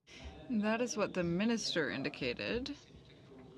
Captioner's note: speaking French